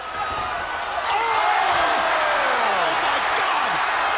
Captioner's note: crowd cheering